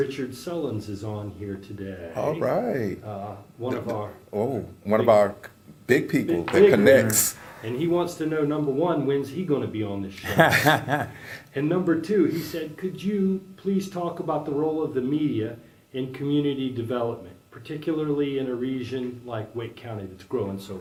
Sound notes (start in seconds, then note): 10.2 laugh